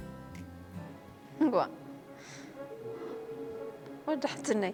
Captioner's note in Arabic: رنين الهاتف